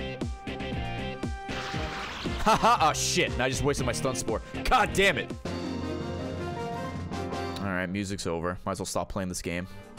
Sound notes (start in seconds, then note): 1.8 laughs